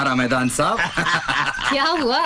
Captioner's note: Laughs